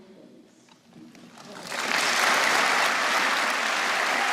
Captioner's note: applause